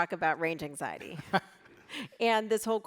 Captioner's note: laughing